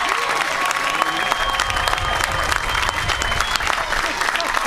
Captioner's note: applause